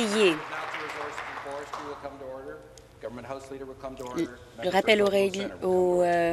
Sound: applause

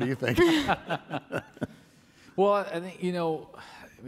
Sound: laughs

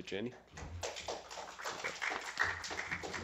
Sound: applause

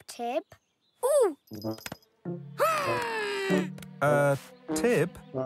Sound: groans

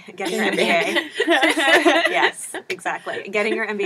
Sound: laugh

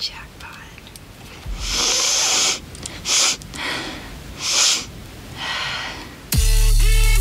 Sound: snorting; trap beat

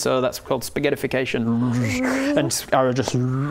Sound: bwechh

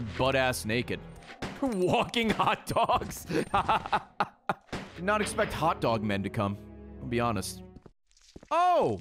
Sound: laughs

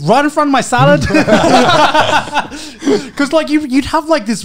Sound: men laughing

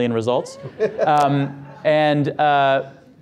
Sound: audience laughter

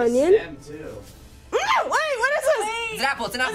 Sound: yelping

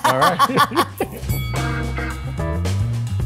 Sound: loud ding; upbeat music

